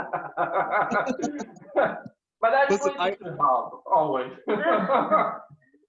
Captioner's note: laughs